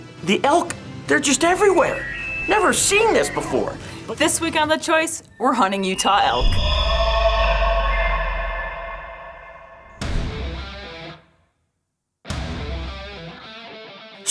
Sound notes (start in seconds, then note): 6.8 elk honking; 10.3 upbeat rock music